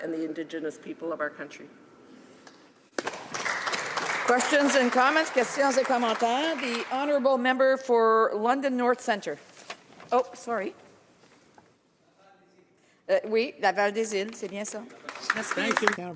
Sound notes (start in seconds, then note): 5.4 some Applause